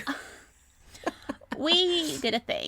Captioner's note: laughter